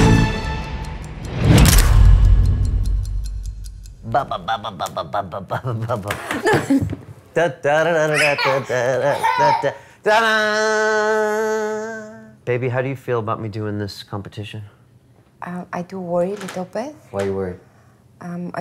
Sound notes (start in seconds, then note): 0.2 clock ticking; 1.3 boom resounds; 4.5 making baby noises; 7.9 making circus noises